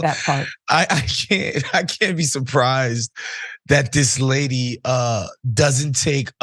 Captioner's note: laugh